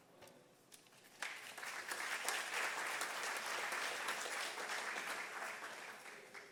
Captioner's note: audience applause